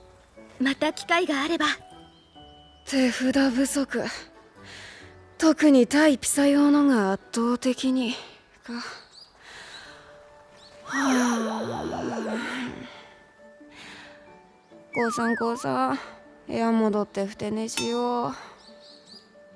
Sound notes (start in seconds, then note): 10.8 sigh